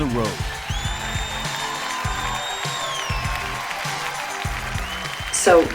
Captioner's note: crowd applauding; crowd cheering